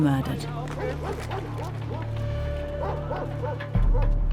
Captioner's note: dogs barking